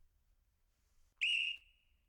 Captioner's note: whistle blows